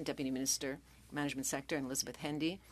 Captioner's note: speaking French